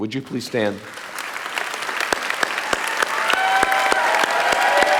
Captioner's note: audience applauding